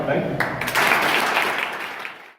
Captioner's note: crowd: applause